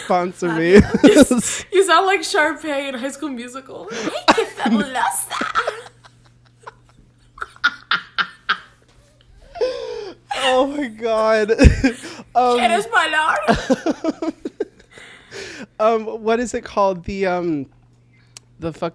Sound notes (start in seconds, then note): 7.6 both laugh; 13.5 laughs